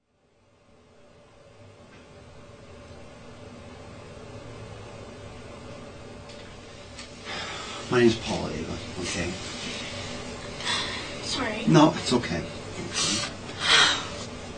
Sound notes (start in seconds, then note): 10.6 sniffling; 12.8 sighes